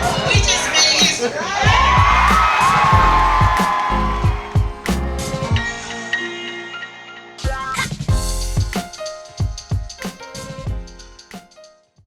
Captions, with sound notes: We just made history! (crowd cheers)